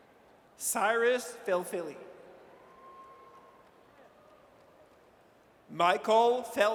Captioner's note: audience cheers